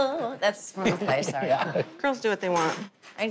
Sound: laughs

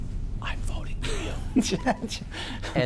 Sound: whispers; laughing

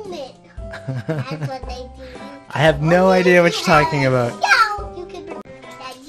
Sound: laughing

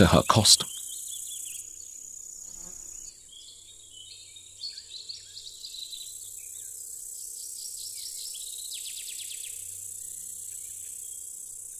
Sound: sounds of nature

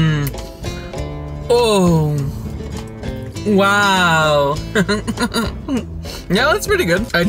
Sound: laughs

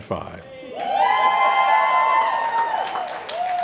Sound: cheering

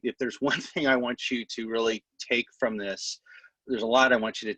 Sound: laughter

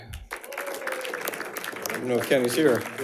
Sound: audience applauding

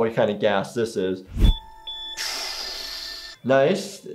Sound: medical beeping

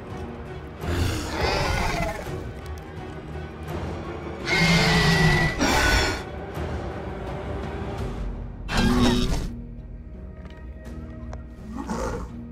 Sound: Scorpius Rex sounds

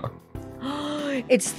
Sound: gasps

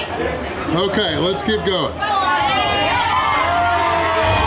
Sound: crowd clapping and cheering

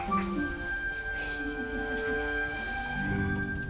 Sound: laugh

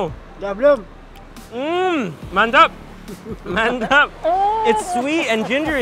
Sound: speaking in foreign language

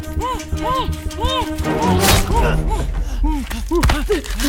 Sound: groaning

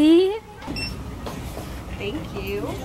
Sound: check out register beeping

